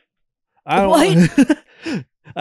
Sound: laughs

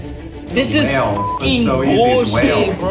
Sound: beep

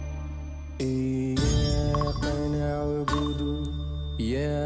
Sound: prayer in Arabic

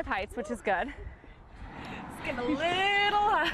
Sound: laughter

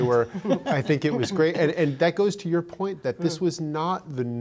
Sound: laughter

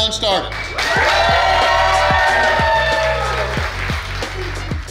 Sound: cheering & Clapping

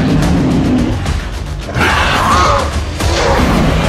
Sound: dryptosaurus Sounds

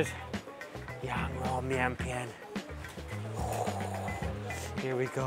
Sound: speaks in Chinese

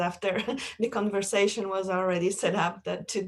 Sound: laughter

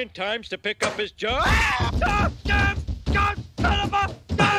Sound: screaming, shouting incoherently

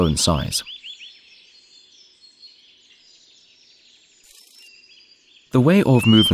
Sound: sounds of nature

